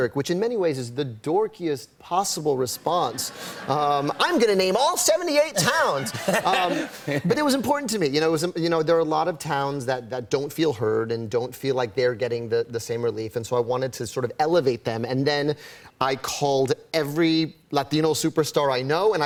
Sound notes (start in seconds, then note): 5.6 laughter